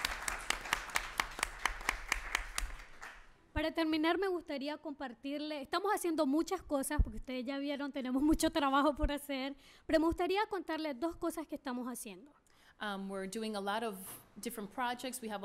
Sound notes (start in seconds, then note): 3.6 speaking spanish